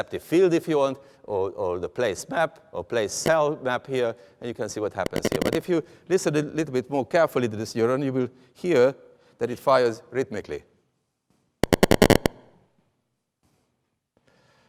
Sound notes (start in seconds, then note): 11.6 rhythmic tapping